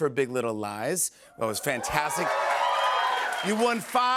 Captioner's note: cheers and applause